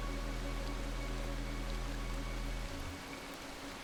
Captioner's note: water gushing